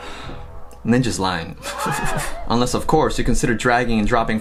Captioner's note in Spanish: risas